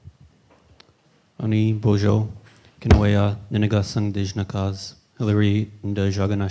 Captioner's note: in Indigenous language